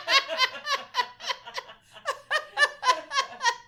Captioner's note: both laugh